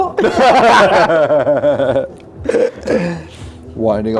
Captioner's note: group laughs